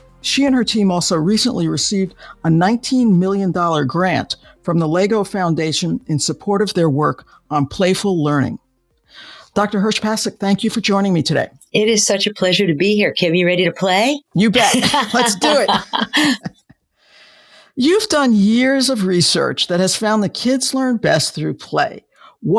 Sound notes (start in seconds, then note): 14.5 both laughing